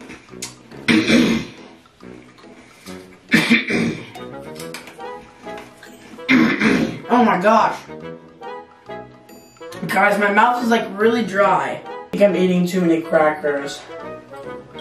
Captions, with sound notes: (clearing throat) (coughing) (soft music) (clearing throat) - Oh my gosh. Guys my mouth is like really dry. You can't be eating too many crackers.